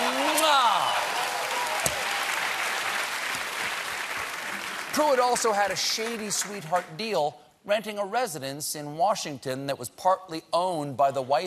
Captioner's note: cheers and applause